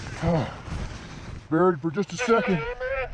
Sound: sighs

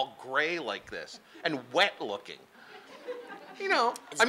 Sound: laughing

